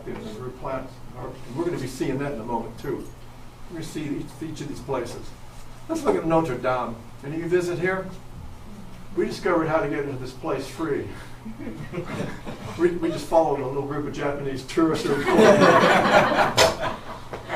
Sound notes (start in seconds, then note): 11.4 a few chuckles from audience; 15.0 audience laughs